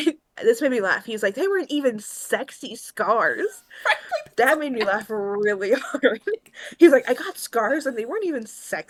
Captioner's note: laughs